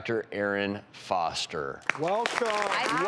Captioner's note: audience applause